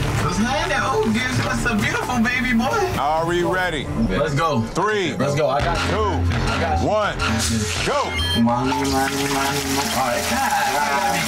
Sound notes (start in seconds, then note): 7.8 digital beeping; 8.8 water splashing